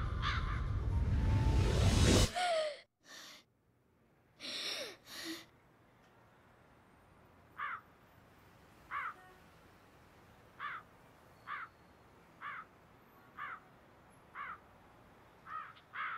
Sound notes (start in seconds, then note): 2.4 gasps; 7.5 crows caw